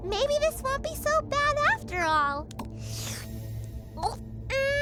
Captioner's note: gulps